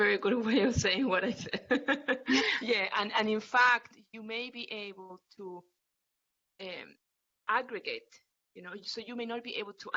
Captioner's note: laughter